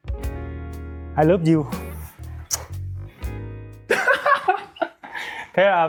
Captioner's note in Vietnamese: tiếng cười